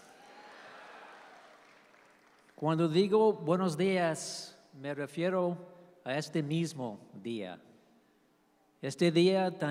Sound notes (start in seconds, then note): 0.0 speaking in Spanish; 0.0 audience applauds; 2.8 professor continues speaking in spanish